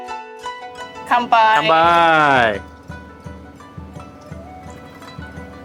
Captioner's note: both cheering in Japanese